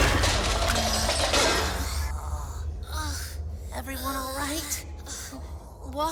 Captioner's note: making tired, ouchy sounds along with Book and Nom